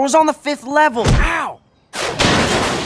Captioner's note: garbage cans clatter